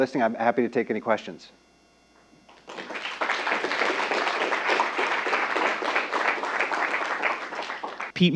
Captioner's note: applause